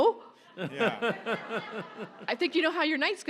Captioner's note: audience laughs